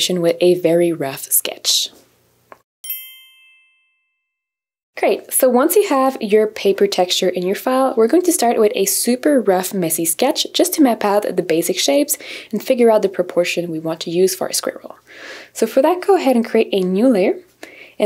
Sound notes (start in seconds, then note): 2.8 bell chimes